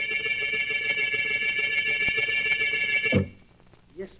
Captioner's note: phone ringing